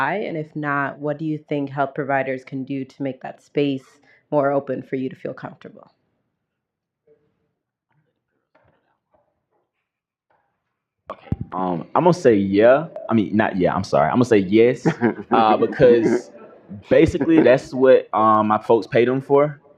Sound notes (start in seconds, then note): 14.7 laughter